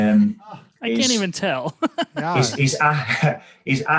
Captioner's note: chuckles